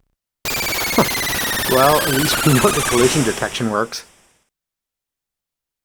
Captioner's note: chuckles